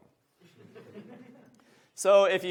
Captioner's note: audience laughs